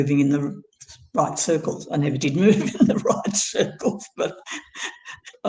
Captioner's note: laughs